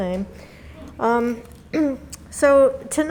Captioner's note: clears throat